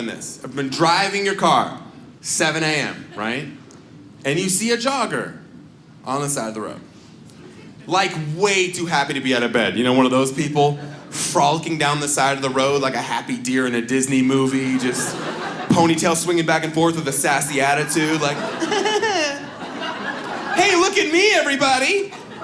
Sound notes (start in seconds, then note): 17.3 audience laughs